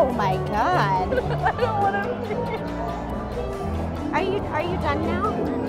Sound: laughs

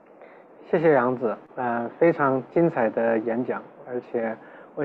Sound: Mandarin

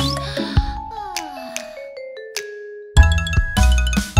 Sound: yawning

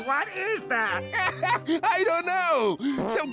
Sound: laughing

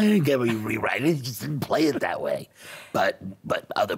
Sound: laughing

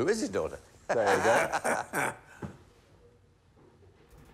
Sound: laughing

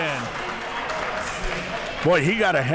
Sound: crowd clapping

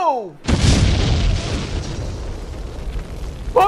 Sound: explosion

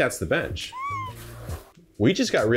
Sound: high pitch squealing

